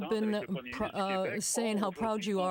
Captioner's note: speaking French